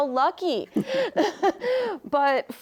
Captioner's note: all laughing